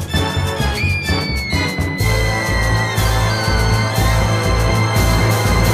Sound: Bubbles screams

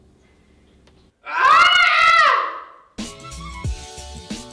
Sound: screams

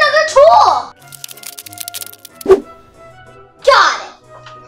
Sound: spider noises

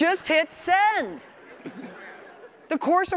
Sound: audience laughter

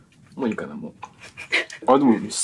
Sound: laughs

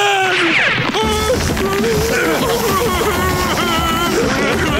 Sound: tribal music playing; fearful moaning

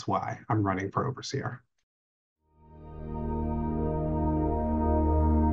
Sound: background tone

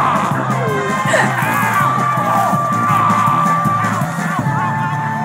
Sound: groans; exclaiming; yells; grunts

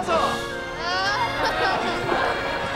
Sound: groaning

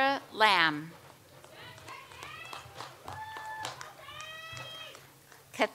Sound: audience applauds

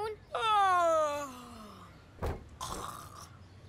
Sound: fake yawning

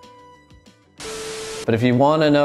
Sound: static buzzing

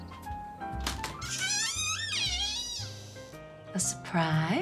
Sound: door creaks

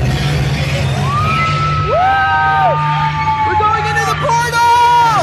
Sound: screams

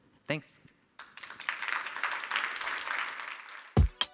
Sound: applause

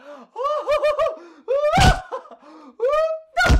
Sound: laughing

